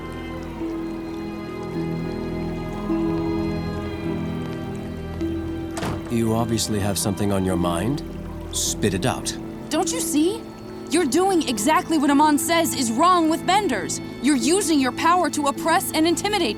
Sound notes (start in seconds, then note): 5.7 door shutting